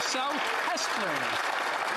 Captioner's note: some Applause